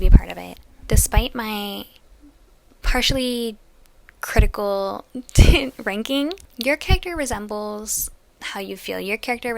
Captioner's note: laugh